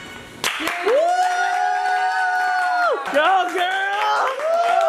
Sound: crowd applauding

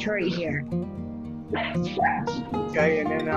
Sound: dog barking

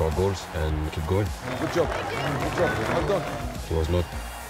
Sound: crowd cheering

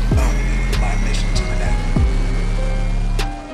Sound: voice echoes

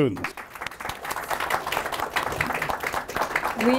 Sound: applause

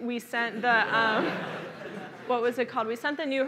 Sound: laughter

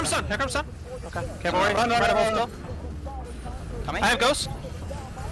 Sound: excited chatter

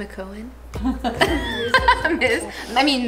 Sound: laughing

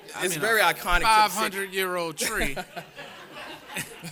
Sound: laughter

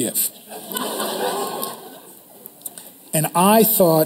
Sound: crowd laughter

